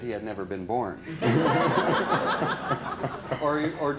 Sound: laughter

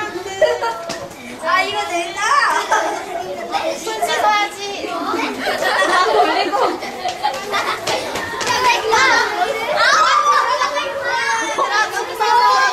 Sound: children screaming and laughing

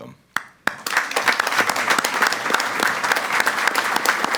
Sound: all applaud

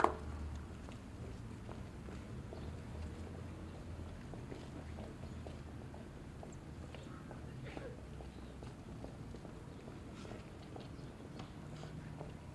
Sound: footsteps and other background noise

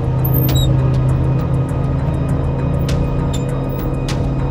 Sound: boat motor hums

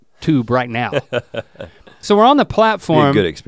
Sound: chuckles

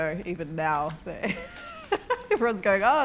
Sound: laughing

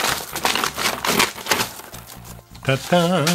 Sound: paper tearing

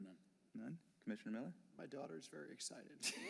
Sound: laughter

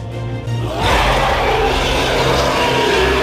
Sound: Charizard Roars

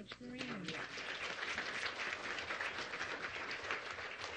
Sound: audience applauds

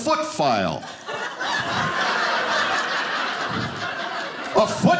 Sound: audience laughing

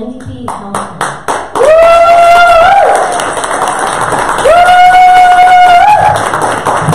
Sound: audience cheers and applause

